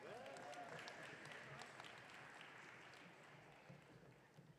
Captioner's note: audience cheering